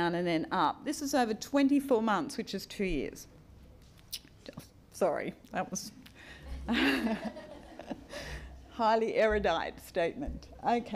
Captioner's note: audience laugh